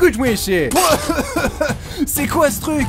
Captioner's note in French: crache et tousse